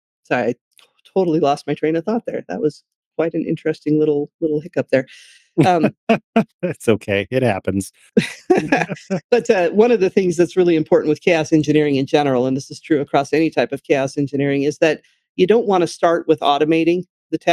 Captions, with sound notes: Sorry, I totally lost my train of thought there. That was quite an interesting little hiccup there. (Laughing) That's okay, it happens. But one of the things that's really important with chaos engineering in general, and this is true across any type of chaos engineering, is that you don't wanna start with automating the